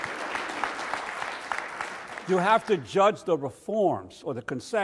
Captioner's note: audience applauds